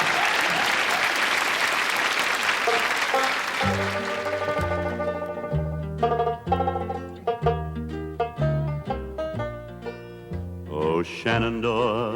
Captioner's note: laughter